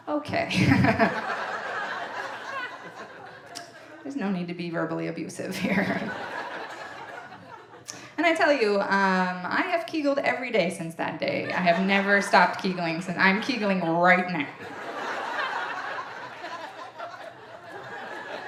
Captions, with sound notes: Okay, there's no need to be verbally abusive here. And I tell you, I have Kegled every day since that day, I have never stopped Kegeling since, I'm Kegeling right now. (audience laughing)